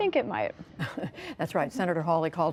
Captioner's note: laughter